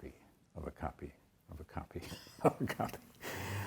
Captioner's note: chuckles